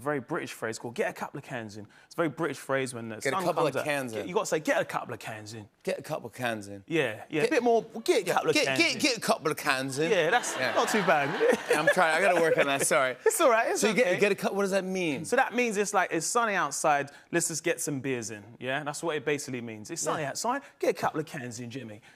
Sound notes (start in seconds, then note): 5.2 British accent; 11.1 normal voice